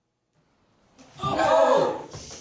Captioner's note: car swerves